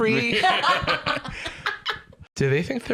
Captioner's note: laugh